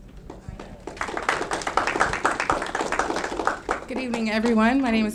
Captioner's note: audience clapping